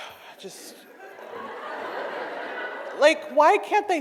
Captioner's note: audience laughs